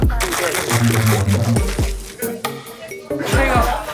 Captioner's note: shaking